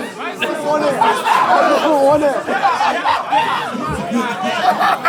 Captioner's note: audience exclaiming; people in room laughing